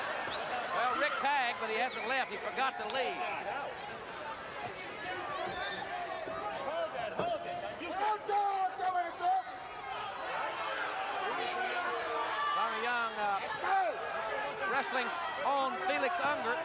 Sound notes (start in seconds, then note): 8.4 speaks indigenous language